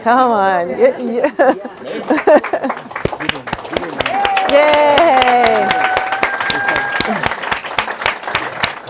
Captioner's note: applause